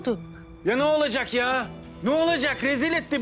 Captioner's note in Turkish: Bildirim Sesi